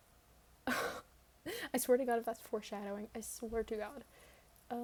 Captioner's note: breathes